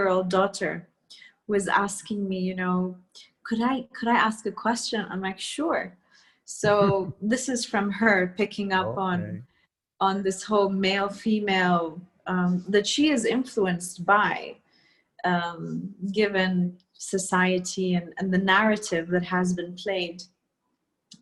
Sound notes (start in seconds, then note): 6.6 Sadhguru laughs